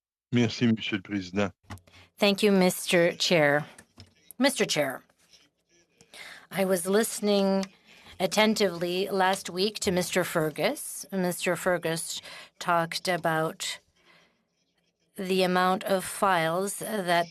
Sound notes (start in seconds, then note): 10.4 speaking in French